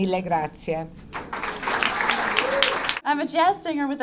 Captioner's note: clapping